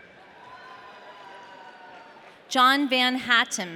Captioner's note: audience cheering